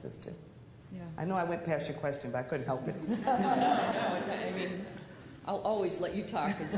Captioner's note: laughter